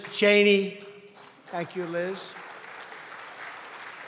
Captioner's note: applause